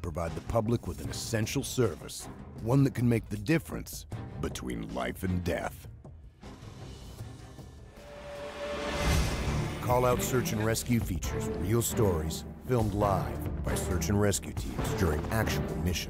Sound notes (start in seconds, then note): 4.9 voiceover